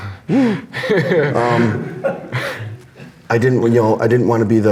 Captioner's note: laughs